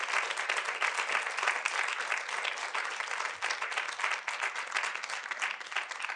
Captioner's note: audience continue applauding